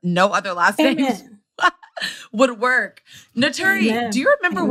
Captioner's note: laughs